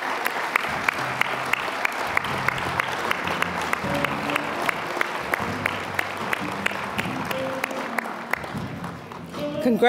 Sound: applause; mellow jazzy music

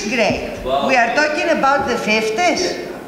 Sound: laughs

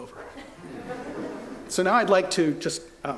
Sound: laughter

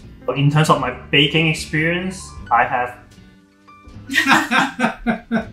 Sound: laugh

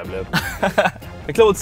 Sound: laughs

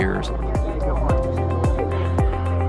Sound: people chattering

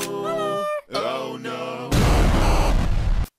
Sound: explosion

